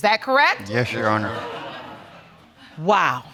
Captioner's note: audience exclaims